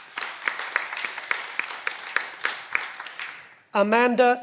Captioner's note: cheering